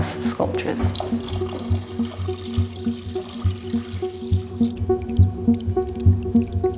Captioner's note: ethereal music; liquid pouring